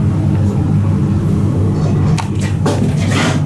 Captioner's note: scraping noise